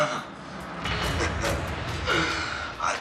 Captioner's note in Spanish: Ríe